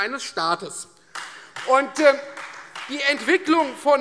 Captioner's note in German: Beifall Freie Demokraten